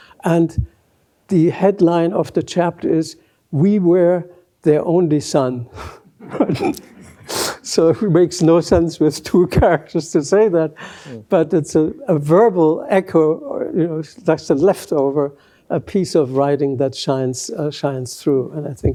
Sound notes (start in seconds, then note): 6.2 laughs